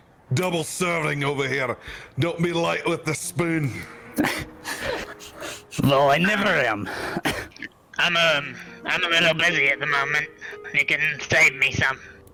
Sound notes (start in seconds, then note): 4.2 laughs